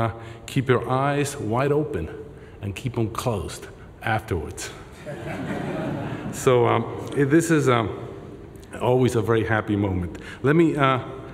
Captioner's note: laughter